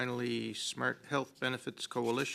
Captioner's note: speaking French